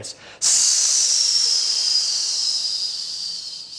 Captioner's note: hissing